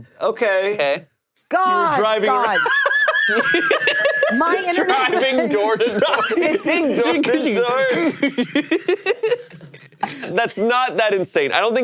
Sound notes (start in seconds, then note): 3.0 all laughing; 7.0 laughs